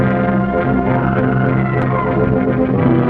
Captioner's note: dramatic music continues; serpent screeches; dramatic music